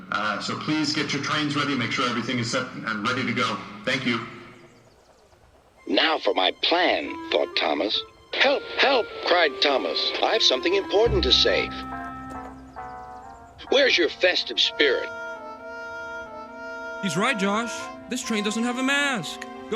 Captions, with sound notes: *over the intercom* So, please get your trains ready, *over the intercom* make sure everything is set and ready to go. *over the intercom* Thank you. *through a voice box* “Now for my plan!” Thought Thomas. *through a voice box* “Help! Help!” Cried Thomas. *through a voice box* “I’ve something important to say!” *through a voice box* Where's your festive spirit? He's right, Josh! This train doesn't have a mask.